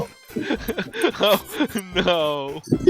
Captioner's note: wheezing and cackling